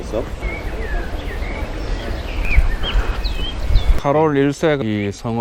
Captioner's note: birdsong